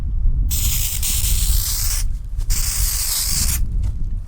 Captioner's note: spraying